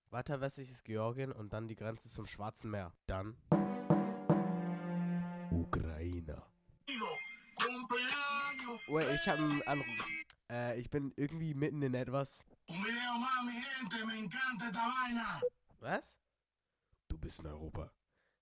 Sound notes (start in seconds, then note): 4.1 dramatic ahh sfx 💀; 6.9 Don Pollo ahh ringtone